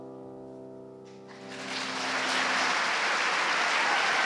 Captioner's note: audience applauding